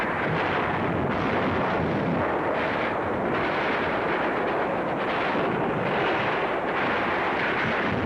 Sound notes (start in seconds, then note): 0.0 fire raging; 0.6 grenades exploding